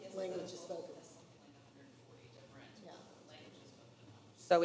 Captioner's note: quietly